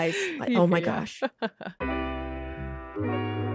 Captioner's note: laughs; chilled music